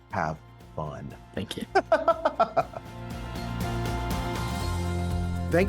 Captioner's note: upbeat music; laughs